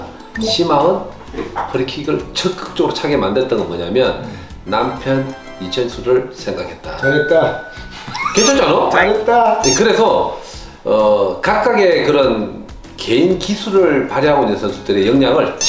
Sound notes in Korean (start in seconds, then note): 8.0 ㅋㅋㅋㅋㅋㅋㅋㅋㅋㅋ